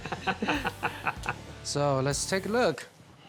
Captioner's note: laughing